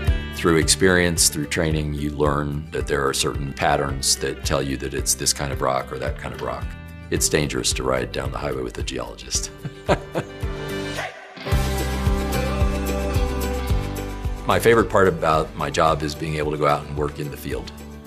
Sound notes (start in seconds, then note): 9.6 laughs